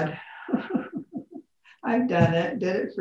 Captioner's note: laughs